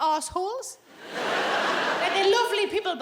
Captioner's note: audience laughing